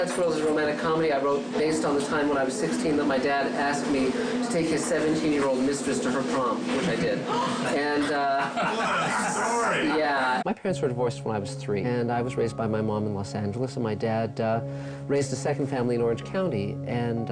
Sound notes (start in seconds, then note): 7.3 gasping